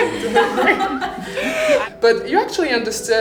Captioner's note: laughing